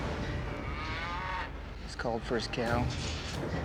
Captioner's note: hoof beats, mooing